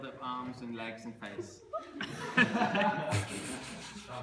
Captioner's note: laughter